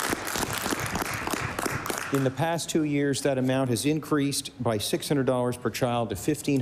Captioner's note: applause